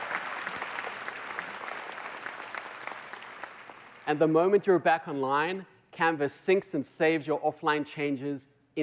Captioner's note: applause